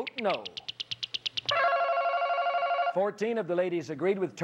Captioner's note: ringing